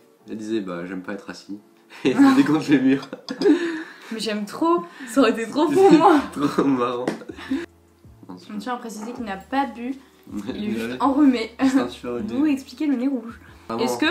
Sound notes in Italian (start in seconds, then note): 2.0 ridere; 5.5 ridere